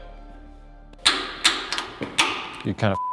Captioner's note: knocks; beep